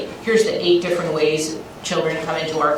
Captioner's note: none